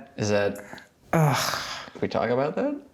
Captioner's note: groans